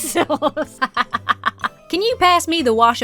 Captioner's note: laughs